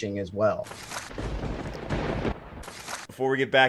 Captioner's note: lightning crackle and crashing thunder